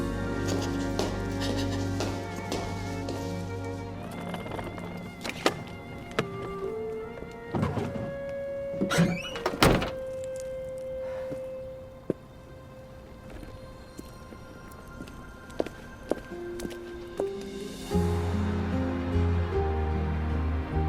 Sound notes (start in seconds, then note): 8.8 trunk shuts